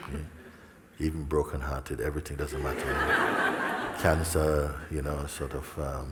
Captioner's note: laughter